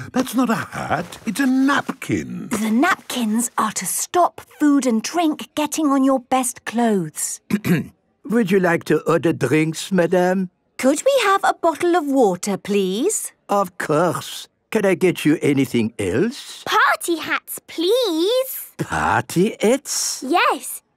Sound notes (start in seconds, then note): 7.5 clears throat